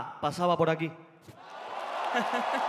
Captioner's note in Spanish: Aplausos